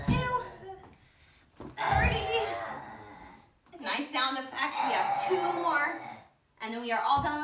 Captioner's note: Poppy growling